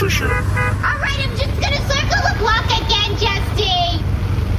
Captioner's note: honking the car horn